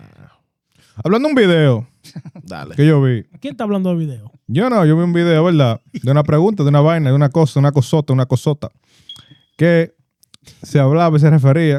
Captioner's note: speaking In Foreign Language